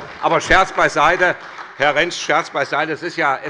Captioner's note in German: Beifall bei Abgeordneten der SPD